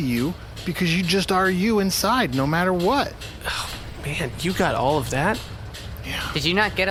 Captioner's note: sighs